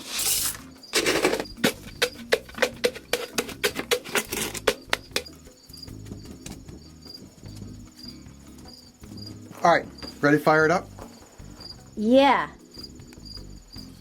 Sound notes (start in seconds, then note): 0.9 crunching